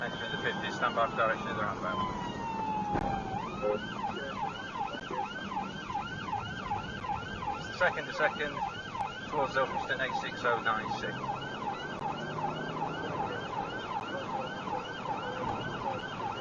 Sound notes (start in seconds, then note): 3.9 vehicle beeps; 5.1 police car siren; 11.7 police car siren; 13.1 engine accelerating